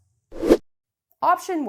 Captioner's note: air whooshing